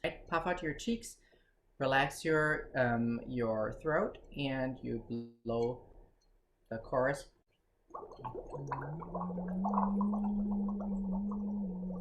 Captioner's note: hums the chorus into the straw